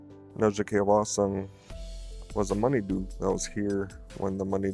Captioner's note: speaking Ojibwe